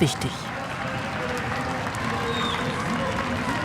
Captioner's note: applause